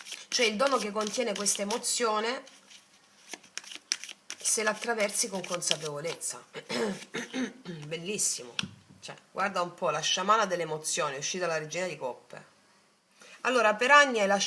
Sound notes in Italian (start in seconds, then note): 6.6 schiarire la voce; 6.6 tosse